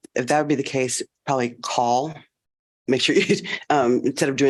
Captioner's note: laughter